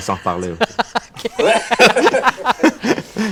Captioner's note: laughter